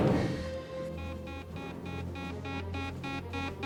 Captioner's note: beeping